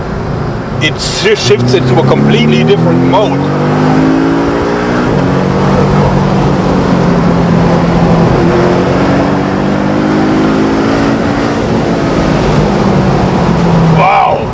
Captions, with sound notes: it shifts into a completely different mode *Engine noise fluctuates and increases* Wow!